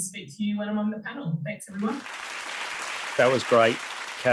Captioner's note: audience applauding